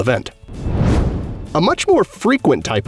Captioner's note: whoosh